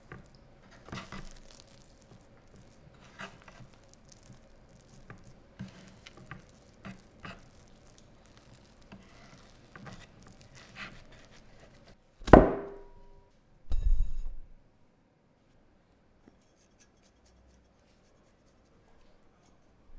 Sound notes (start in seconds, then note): 12.2 dough thud; 16.3 flour sprinkling